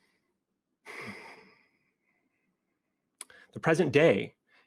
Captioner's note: breathes deep